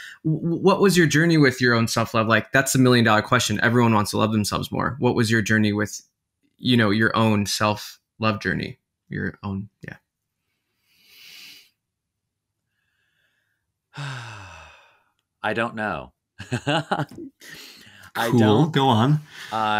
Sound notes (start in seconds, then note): 13.9 sighing; 16.4 laughing